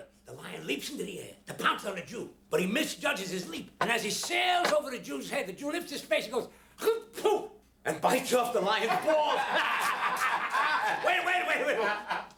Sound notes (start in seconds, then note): 8.8 laughter